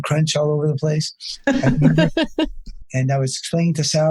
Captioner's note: laughs